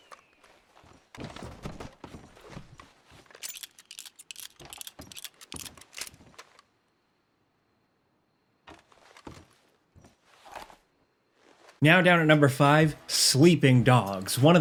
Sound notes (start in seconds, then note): 3.5 revolver clicking